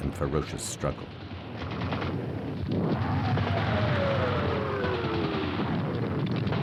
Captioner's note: explosions; gunfire